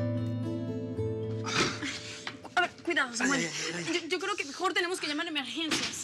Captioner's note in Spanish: quejidos